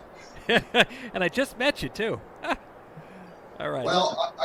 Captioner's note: laughs